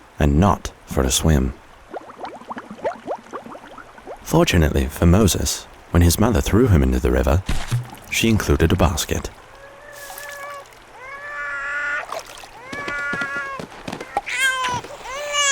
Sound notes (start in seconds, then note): 2.2 water gurgling; 10.9 baby crying